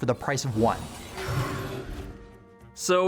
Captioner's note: ethereal whooshing